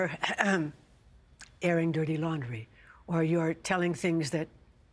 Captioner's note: clearing throat